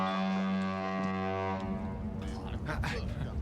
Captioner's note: ship horn blares